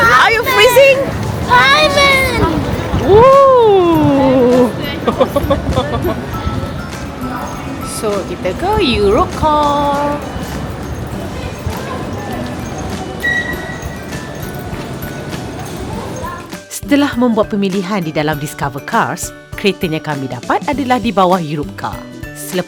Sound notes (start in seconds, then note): 1.5 speaking German; 6.1 laugh